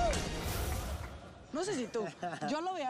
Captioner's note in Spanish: todos vitorean